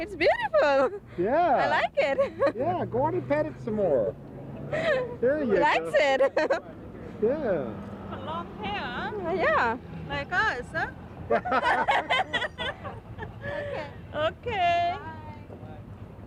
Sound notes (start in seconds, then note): 5.9 laughing; 11.3 laughing